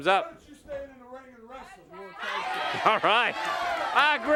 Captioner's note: crowd chatter